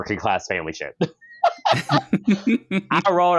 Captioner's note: laughter